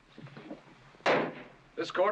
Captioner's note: bang